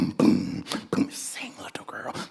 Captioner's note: Zimwi whispers